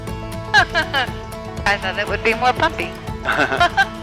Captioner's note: laughing